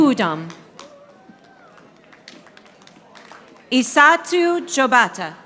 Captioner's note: audience applauding